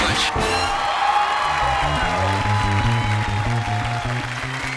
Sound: applause

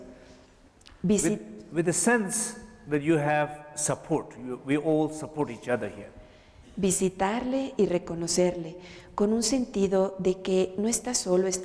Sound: Spanish; Spanish

